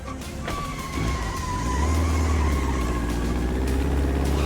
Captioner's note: tires squealing